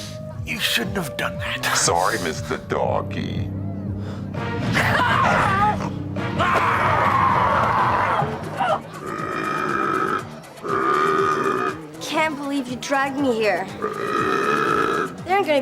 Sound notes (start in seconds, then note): 3.0 growling; 8.5 burping; 13.6 burping